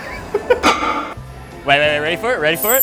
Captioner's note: weights clang